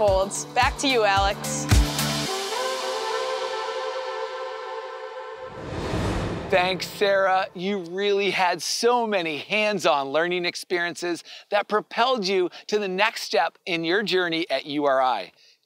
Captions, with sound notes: Back to you, Alex. (air whooshing) - Thanks, Sarah. You really had so many hands-on learning experiences that propelled you to the next step in your journey at URI.